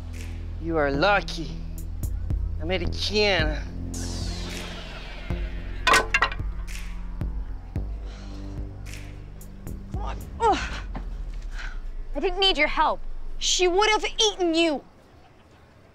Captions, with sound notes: You are lucky, American. [thudding] [grunting] I didn't need your help. She would've eaten you.